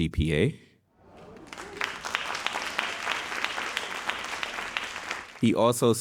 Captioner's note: audience cheering and applauding